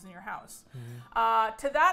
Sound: sighs contentedly

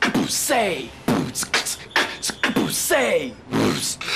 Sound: beatboxing

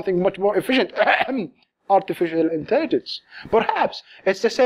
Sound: fake cough

